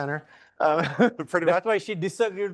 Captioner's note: laughing